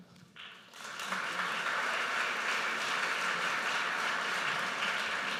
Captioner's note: audience applauds